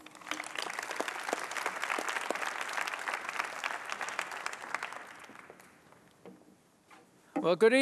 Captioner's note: applause